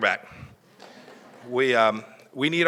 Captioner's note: laughter